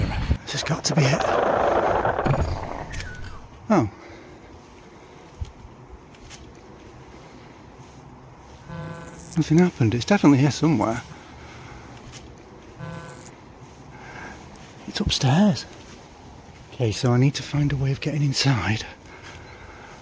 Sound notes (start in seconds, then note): 0.6 portal failing sound; 5.3 buzzing; 12.8 electric buzz